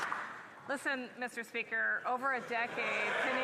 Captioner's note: applause